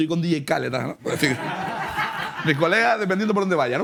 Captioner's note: laughter